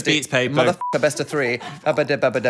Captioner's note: beep